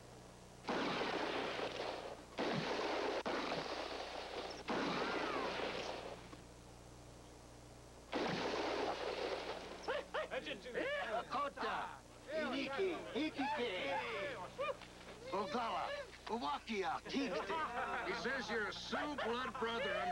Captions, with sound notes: ( gunshots ) ( speaking Sioux ) HE SAYS YOU'RE A SIOUX BLOOD BROTHER